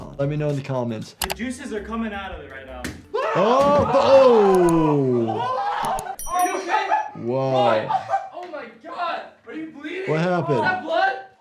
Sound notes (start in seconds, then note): 3.2 vloggers screaming